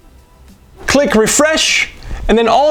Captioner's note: whoosh